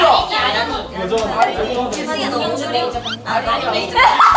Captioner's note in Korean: 하하하